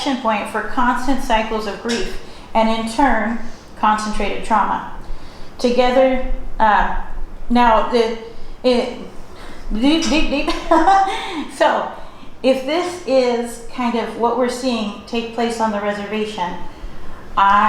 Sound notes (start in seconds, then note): 9.7 laughs